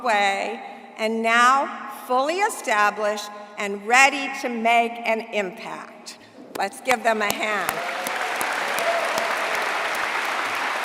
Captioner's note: applause